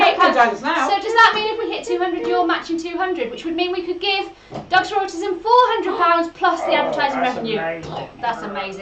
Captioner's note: in a funny voice